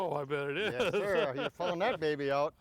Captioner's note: chuckling